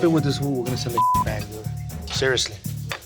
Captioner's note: beep